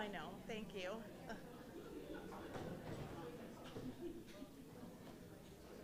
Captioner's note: crowd softly conversing